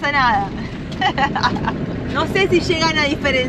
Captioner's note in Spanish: risas